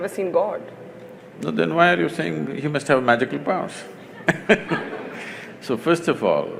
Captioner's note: laughter